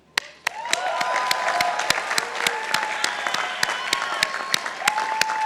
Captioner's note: participants applauding